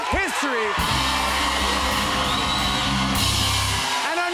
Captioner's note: cheers and applause